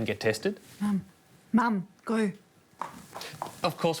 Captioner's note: footsteps retreating